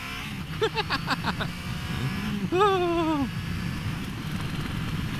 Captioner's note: laughing in excitement